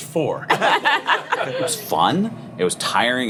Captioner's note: laughing